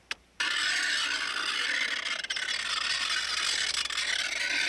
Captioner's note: metal scraping